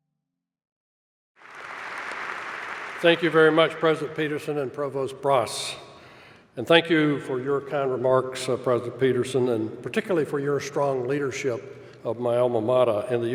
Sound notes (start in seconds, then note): 1.4 applause